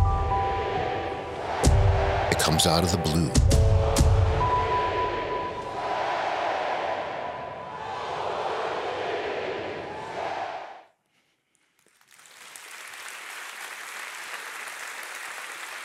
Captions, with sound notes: It comes out of the Blue. (crowd chanting) (audience applauding)